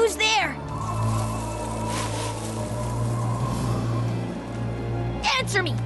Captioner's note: whistling wind